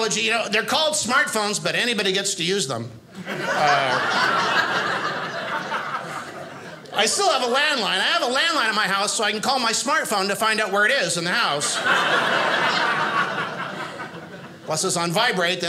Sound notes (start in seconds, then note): 3.1 audience laughing; 11.5 audience laughing